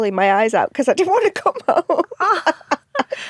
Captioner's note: laughs